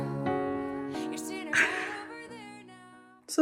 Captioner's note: exasperated exhale